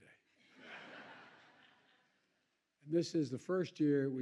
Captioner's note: laughter